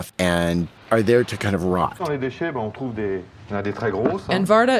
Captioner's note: french dialogue